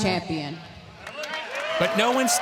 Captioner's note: crowd cheering